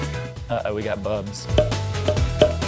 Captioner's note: popping sound